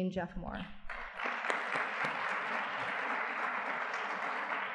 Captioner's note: audience clapping